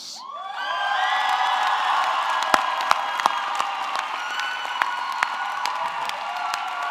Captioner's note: audience cheering; audience clapping